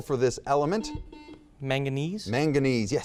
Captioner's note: buzzer beeps